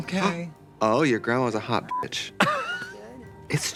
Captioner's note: beep